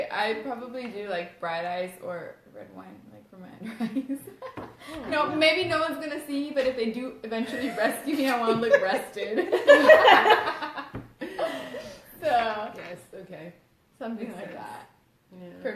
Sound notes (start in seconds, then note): 11.2 laughs